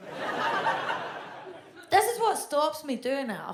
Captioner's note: audience laughs